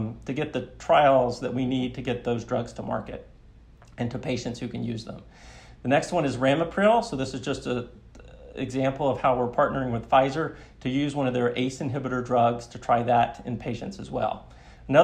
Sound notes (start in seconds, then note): none